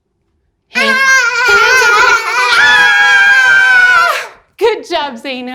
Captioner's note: everyone screams